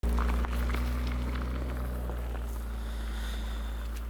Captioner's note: car driving off